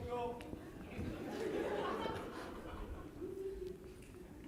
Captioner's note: audience laughs